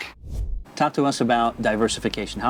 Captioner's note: air whooshing